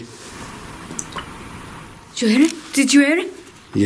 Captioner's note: water dripping